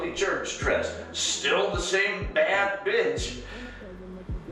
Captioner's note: laughs